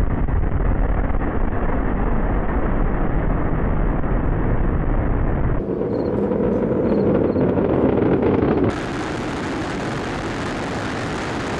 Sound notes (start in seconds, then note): 5.5 engines roaring continues